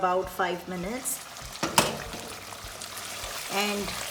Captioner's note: sizzling